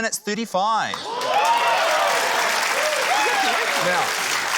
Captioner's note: cheering, applause